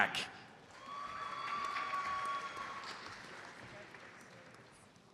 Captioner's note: audience applauds